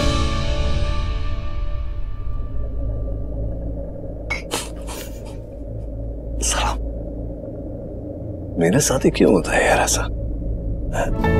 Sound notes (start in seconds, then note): 4.5 Rohit laughs